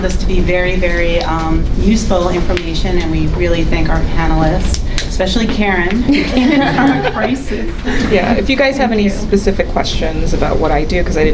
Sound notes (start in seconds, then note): 6.1 everyone laughing